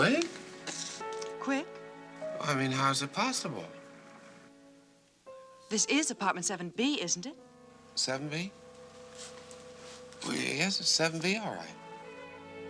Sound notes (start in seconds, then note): none